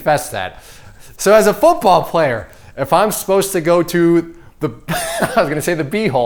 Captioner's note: laughs